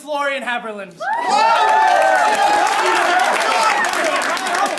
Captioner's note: applause